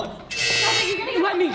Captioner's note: incorrect passcode buzz